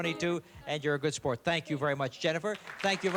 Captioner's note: applause